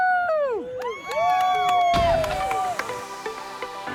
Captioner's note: cheers and applause